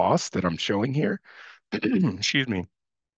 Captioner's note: throat clearing